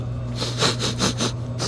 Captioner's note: sniff